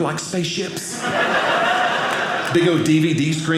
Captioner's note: audience laughing